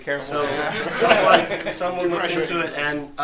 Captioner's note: all laugh